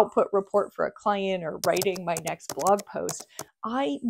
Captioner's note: keyboard clacking